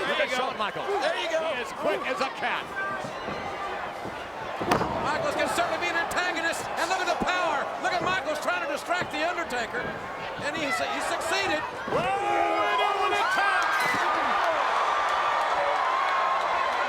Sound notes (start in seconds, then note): 4.6 body thuds; 13.6 audience cheering